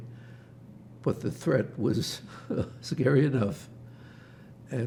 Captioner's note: laughing